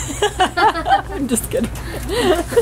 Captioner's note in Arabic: ضحك